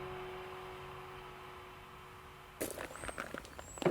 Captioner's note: silent except the wind; footsteps approach